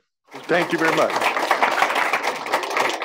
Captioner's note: applause